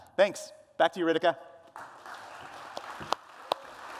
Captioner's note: applause